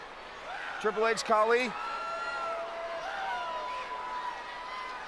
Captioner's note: audience cheers